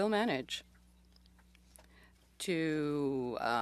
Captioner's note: speaking French